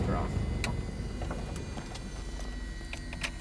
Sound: click; engine powers down

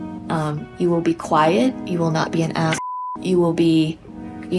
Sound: beep

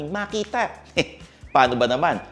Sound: chuckles

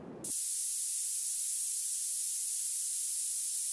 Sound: sound hissing

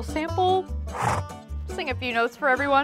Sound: horse snorts

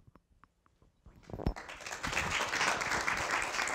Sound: applause

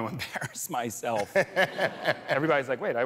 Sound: laughs

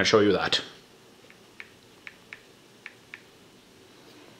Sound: phone tapping

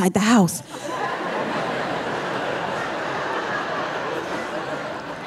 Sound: audience laughing

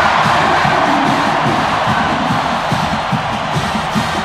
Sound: crowd roars

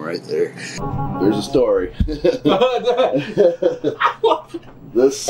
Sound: laugh

